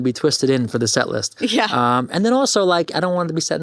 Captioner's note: chuckles